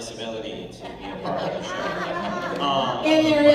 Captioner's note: laughter